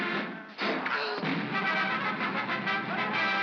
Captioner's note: thunk; Barnaby gasps; triumphant music; pop